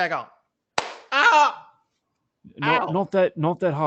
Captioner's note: WHack